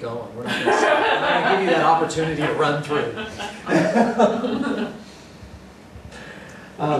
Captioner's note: laughter